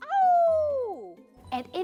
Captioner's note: teacher imitating wolf howling